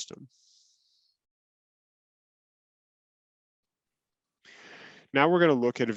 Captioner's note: silence